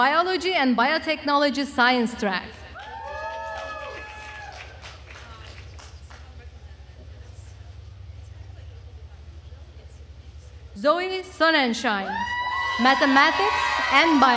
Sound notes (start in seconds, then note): 2.7 attendees cheering and applauding